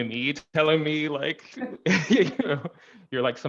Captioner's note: laughing